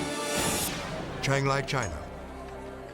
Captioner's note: air whooshes